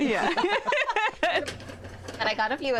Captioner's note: laughter